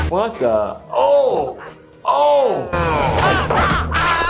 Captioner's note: dog growling